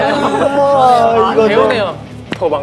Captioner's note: tapping